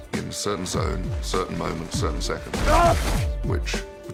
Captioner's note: grunts